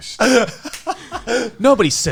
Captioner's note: Garnt laughing